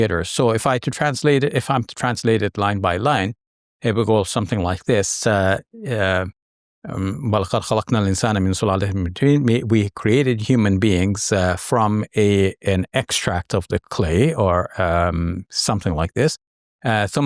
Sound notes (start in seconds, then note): 7.3 speaks verse in Arabic